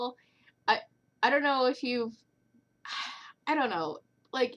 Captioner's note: sigh